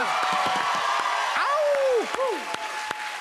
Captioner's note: cheers and applause